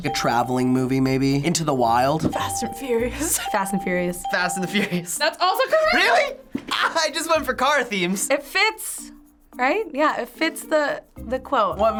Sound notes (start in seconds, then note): 3.2 laughs